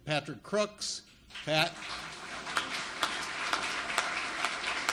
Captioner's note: audience applauds